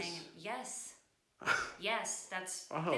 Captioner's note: ben laughs